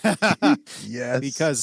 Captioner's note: laughing